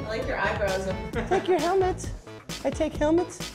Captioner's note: bad japanese accent